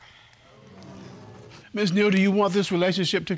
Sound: audience murmuring

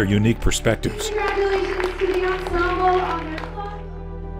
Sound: clapping

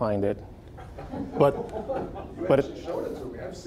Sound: audience laughing

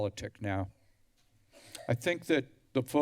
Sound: coughs

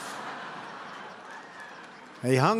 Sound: laughter

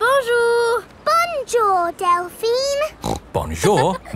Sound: snorts

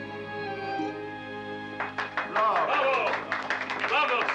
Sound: crowd jeers

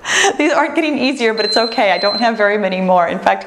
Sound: timer beeps

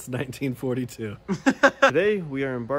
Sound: laughs

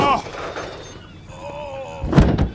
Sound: bonk

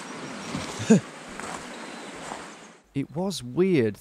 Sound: laughs

